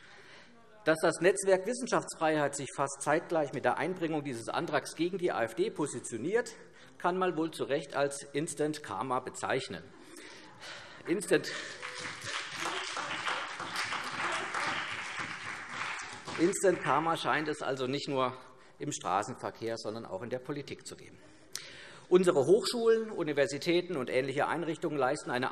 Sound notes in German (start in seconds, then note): 11.2 Beifall CDU, BÜNDNIS 90/DIE GRÜNEN und vereinzelt SPD